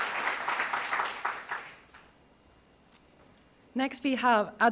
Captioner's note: applause